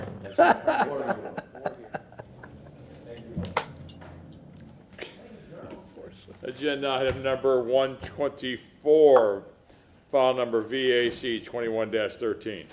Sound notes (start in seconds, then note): 2.7 laughter